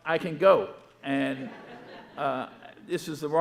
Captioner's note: audience laughing